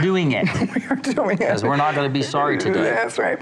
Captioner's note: laughs